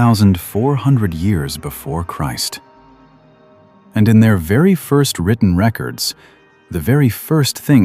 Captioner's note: breath